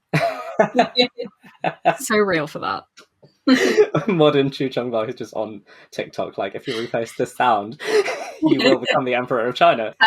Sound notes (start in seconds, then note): 0.1 laughing